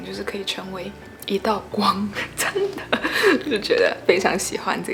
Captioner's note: hahaha